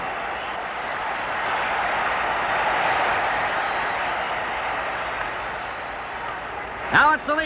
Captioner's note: crowd cheers